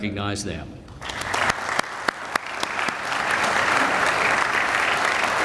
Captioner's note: audience applauding